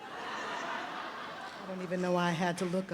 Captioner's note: audience chuckles